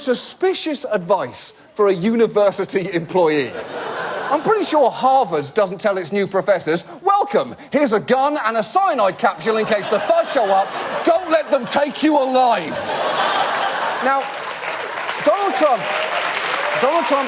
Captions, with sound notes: Which is suspicious advice -for a university employee. -(AUDIENCE LAUGH) I'm pretty sure Harvard doesn't tell its new professors, "Welcome, here's a gun and a cyanide capsule in case the fuzz show up. -Don't let them take you alive!" -(AUDIENCE LAUGH) -Now, Donald Trump... -(AUDIENCE APPLAUD)